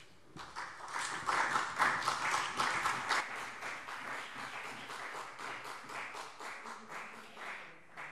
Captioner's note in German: Beifall CDU und BÜNDNIS 90/DIE GRÜNEN